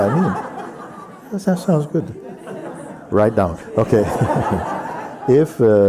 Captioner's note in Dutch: gelach